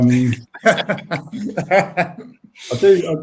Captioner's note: laughs